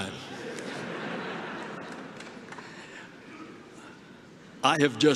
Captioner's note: laughter